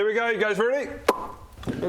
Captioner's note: pop!